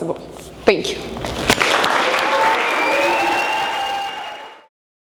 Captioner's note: audience cheering